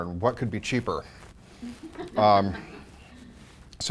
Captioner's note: soft laughter